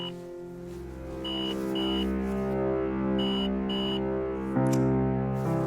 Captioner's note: phone beeping